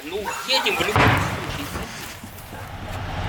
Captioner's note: explosion